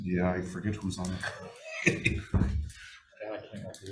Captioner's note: person chuckles